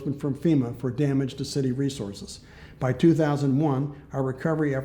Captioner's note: none